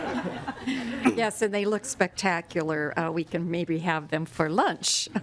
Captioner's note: laughter